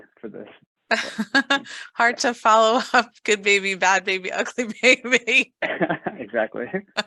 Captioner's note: laughs